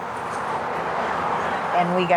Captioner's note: vehicles whirring